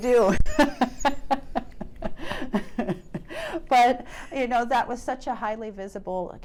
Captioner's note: laughs